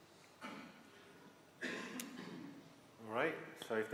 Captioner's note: coughing